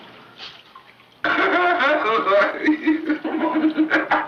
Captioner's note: Eddie laughs